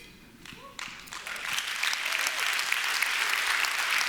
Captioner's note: applause